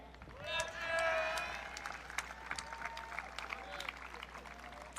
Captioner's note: audience cheering